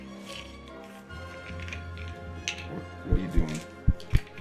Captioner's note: heart beats stop